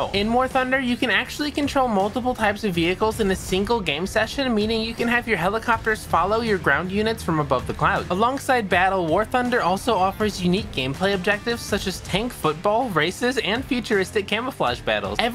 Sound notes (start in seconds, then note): none